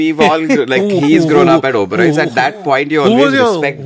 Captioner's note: laughs